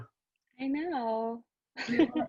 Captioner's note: laughter